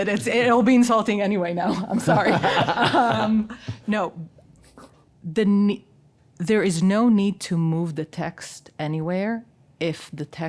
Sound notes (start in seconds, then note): 2.7 panel laughs